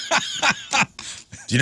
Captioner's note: laughing